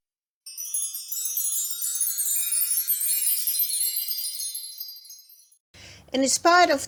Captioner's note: fairy dust magic sound